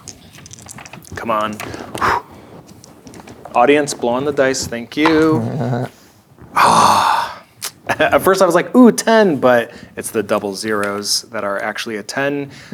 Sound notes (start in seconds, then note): 0.0 dice rattling; 1.8 blows air; 5.0 dice rolling; 5.2 chuckling